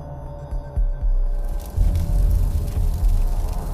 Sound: fire crackling

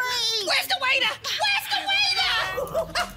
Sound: screams; monkey screeching

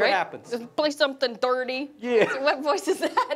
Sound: laughs

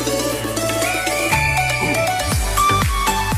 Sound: whistle blows again

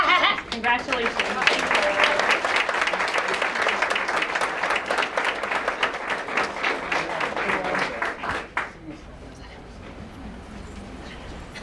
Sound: applause

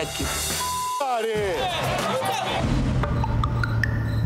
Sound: beep; mellow music

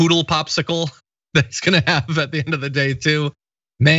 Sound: laugh

